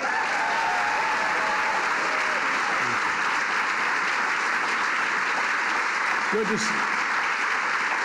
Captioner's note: applause